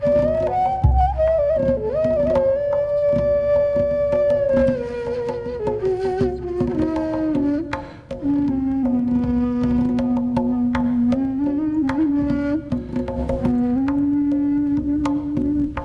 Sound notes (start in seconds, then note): none